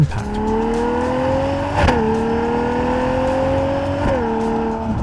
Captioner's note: revving continues